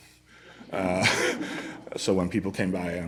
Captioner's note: laughter